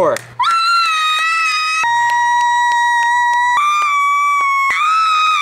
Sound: screams and claps; claps

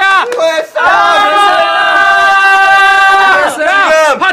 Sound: their shout of joy

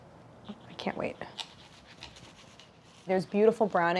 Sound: tart slicing

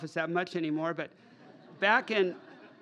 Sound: laughter

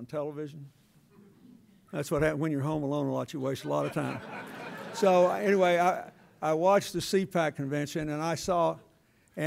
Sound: laughter

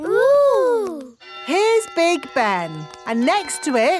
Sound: clock chimes

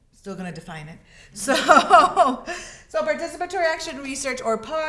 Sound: laughs

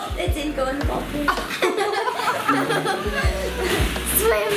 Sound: laughter

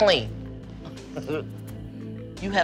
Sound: chuckles

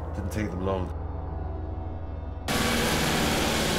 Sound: alarm blares

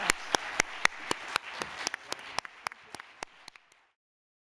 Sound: applause continues

